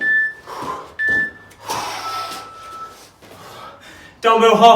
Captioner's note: exhales sharply